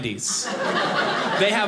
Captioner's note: audience laughing